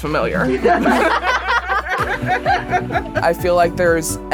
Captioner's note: girls laughing